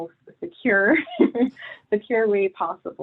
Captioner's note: laughs